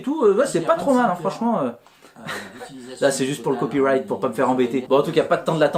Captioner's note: laughs